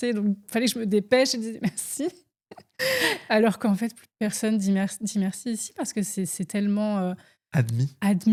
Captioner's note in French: rires